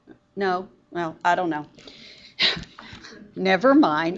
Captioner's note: laughs